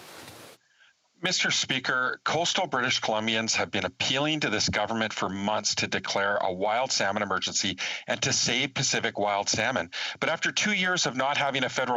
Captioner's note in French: voix de l'interprète